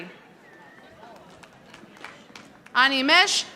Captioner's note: audience applauding